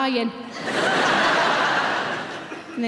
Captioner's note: audience laughing